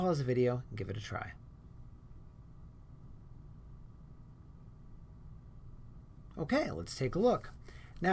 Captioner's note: silence